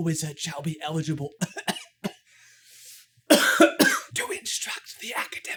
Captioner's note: coughs